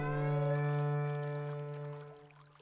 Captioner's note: water trickling